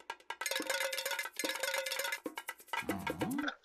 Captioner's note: clinking; clock ticking